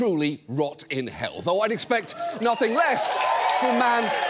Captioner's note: audience cheers